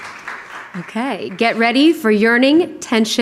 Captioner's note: audience cheering and applauding